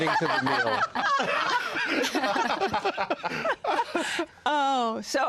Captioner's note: laughter